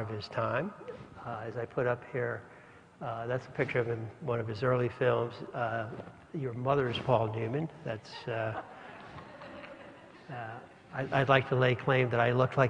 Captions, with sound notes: his time as I put up here that's a picture of him one of his early films your mother's Paul Newman that's >> [LAUGH]. >> I'd like to lay claim that I looked